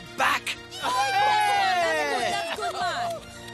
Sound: cheer

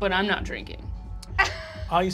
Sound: Fig laughs

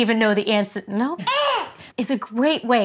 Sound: yells

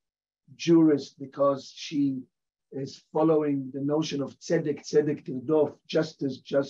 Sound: hebrew

